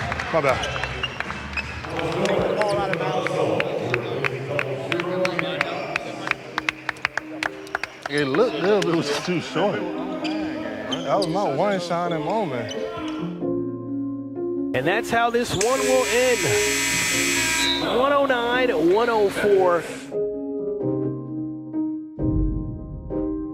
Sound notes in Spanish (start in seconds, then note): 0.8 aplausos del público; 1.9 locutor parlotea; 6.3 el público aplaude; 12.9 música chill; 15.6 zumba el reloj; 19.9 continúa la música chill